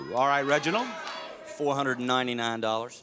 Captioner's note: audience chatters